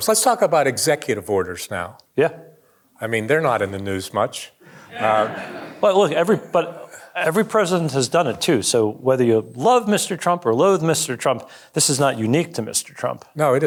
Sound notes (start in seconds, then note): 4.9 audience laughing